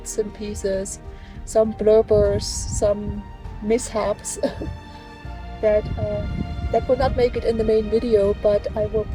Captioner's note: laughs